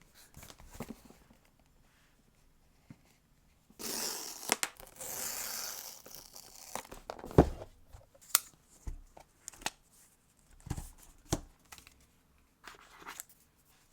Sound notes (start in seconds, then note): 3.8 tape gently reaping